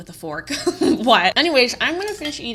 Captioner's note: chuckles